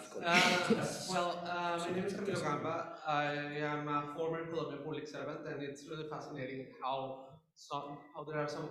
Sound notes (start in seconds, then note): 0.0 panellists laugh; 2.9 muffled voice